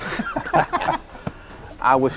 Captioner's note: officers laugh